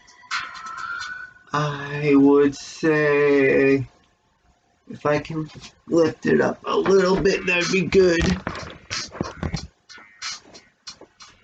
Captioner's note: sighs